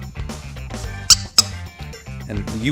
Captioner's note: squeaking